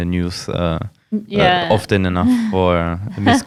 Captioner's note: laughs